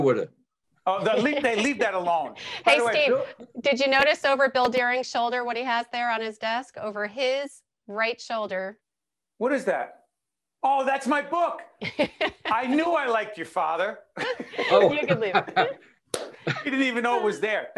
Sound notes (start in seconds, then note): 14.2 laughing